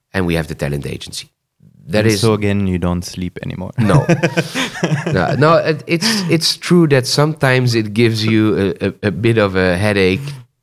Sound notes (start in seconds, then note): 3.8 laughs